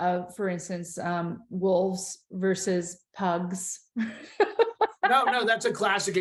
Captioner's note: laughs